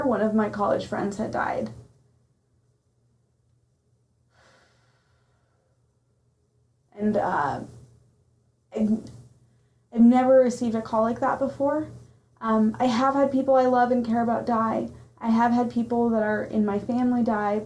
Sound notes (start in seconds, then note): 4.3 audible breath